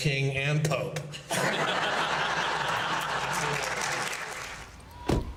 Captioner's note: all applauding